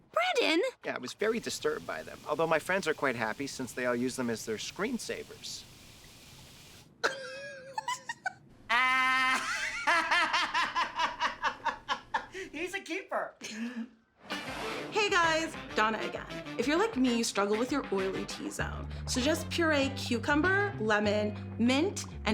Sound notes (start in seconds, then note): 6.0 laughing